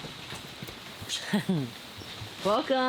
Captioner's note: chuckles